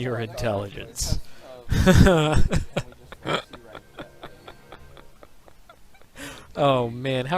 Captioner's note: laughs